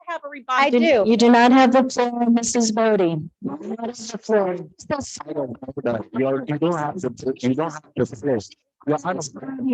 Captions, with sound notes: - I have a revised- - You do not have the floor, Mrs. Boddy. (Board muttering)